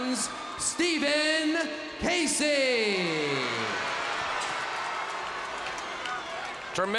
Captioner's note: crowd cheers